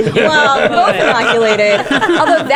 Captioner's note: laughter